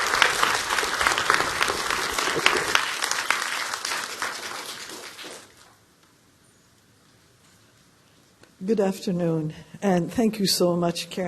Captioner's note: applause